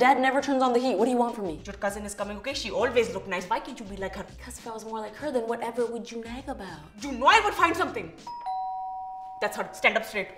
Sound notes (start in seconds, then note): 8.2 doorbell rings